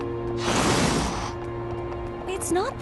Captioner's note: whoosh